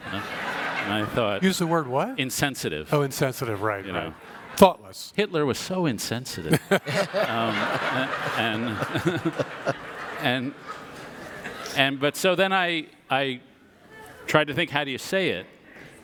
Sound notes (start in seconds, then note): 9.1 audience laughs